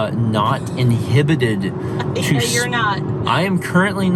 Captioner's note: laughing